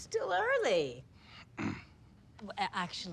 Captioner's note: clears Throat